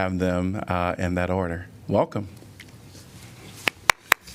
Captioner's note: applause